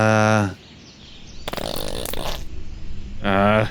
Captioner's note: farts